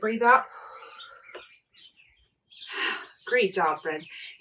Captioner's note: exhaling